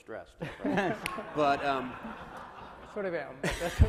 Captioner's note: laughs